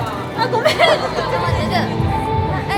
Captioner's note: haha